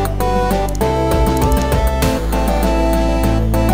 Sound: mouse clicking

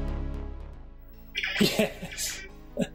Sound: laughs

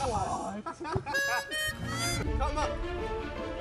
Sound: laughs

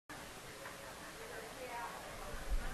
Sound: chatter

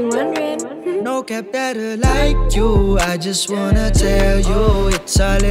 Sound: ooh

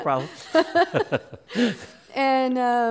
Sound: laughs

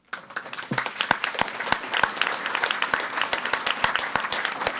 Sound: audience applauding

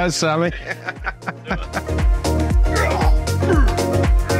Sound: both laughing

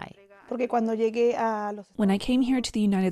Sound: speaking in foreign language

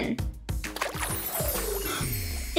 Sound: gurgle

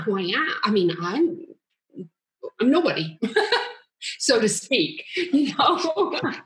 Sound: chuckles

